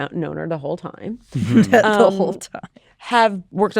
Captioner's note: laughing